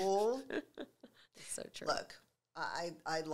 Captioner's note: laughing